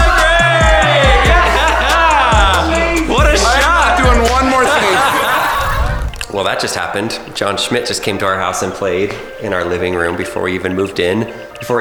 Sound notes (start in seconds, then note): 0.0 cheering; 5.0 video game power up plays